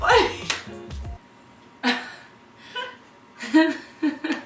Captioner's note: laughing